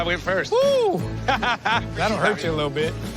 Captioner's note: laughs